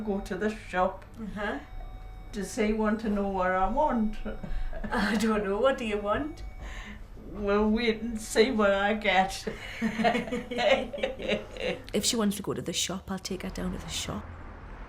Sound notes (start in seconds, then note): 9.6 laughs